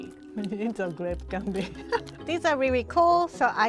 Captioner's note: chuckles